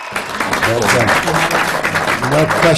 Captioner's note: applause